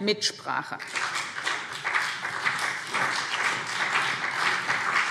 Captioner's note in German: Beifall BÜNDNIS 90/DIE GRÜNEN und CDU